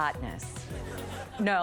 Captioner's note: studio audience chuckles